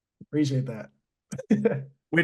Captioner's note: laughs